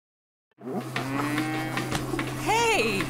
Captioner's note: cows mooing